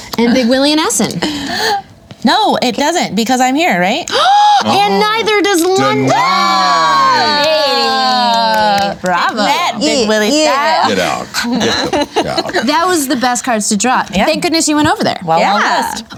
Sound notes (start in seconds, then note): 4.1 gasp; 5.7 everyone cheers